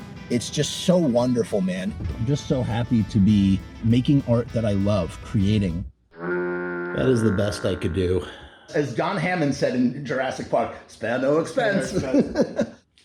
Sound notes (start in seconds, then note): 6.1 cartoon stinky horn blow; 11.8 chuckle